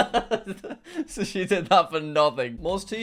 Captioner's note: laughs